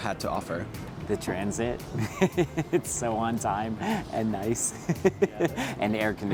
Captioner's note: giggle